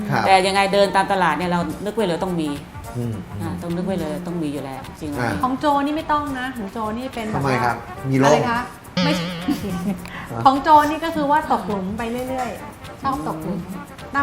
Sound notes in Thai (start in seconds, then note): 8.9 หัวเราะ